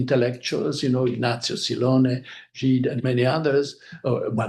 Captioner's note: speaking foreign language